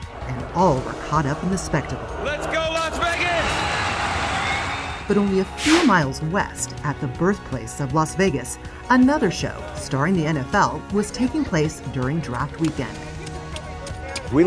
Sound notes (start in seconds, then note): 3.8 crowd cheers